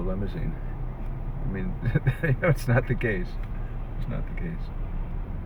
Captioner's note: laughs